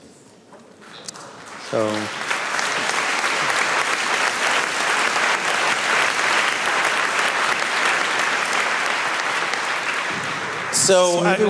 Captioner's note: applause